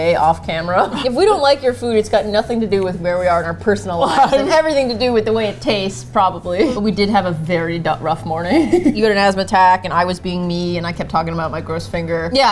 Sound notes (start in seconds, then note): 0.5 both laugh; 8.3 laughs